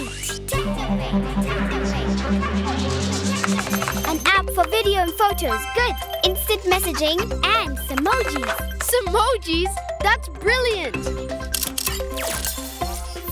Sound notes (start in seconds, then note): 0.1 echoing; 11.5 beeping